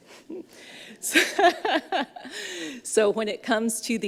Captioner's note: laughs